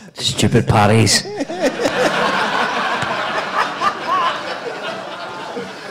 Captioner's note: audience laughing